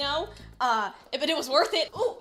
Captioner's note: stammers